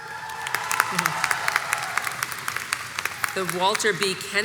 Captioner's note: audience cheers and applauds